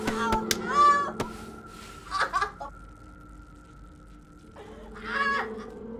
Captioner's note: hands slapping